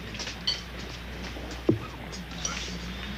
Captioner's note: thud